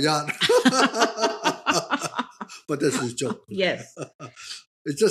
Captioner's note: both laughing